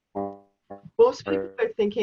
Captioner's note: video interference